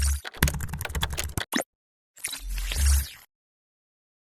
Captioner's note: keys clicking